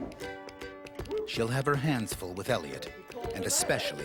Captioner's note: voiceover